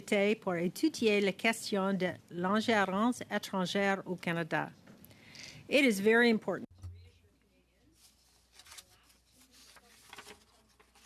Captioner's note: speaking French